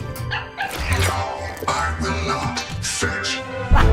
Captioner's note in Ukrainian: Гав, Гав